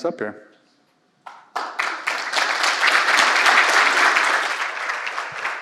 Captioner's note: applause